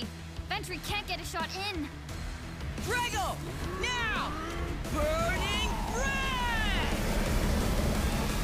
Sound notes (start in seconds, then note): 3.6 Drago roaring